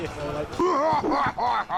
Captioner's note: laughs